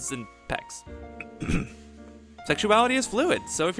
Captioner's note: clearing throat